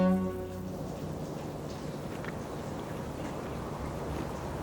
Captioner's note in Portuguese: Som ambiente